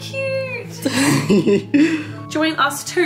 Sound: laughs

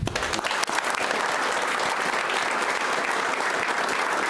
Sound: audience applauds

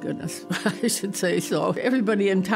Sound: chuckling

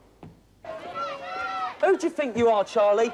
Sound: children shouting joyfully

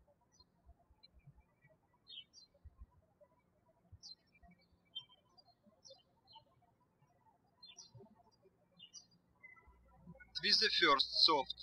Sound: birds chirping

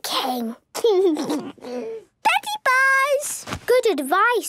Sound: laugh

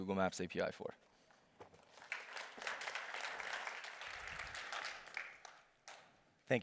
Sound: applause

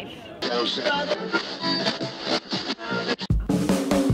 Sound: discordant music; static buzzing; upbeat rock music

